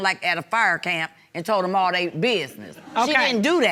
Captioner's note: audience laugh